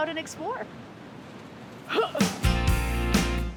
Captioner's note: grunts